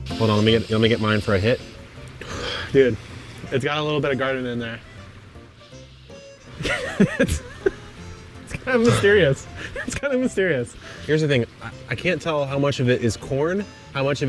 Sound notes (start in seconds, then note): 0.0 upbeat music; 5.6 upbeat music; 6.5 laughs